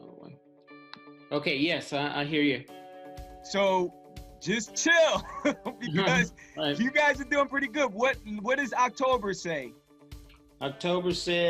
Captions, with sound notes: - Okay, yes I hear you. - So, just chill! (laughs) Because you guys are doing pretty good. What does October say?